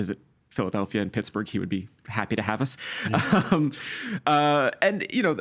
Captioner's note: laughing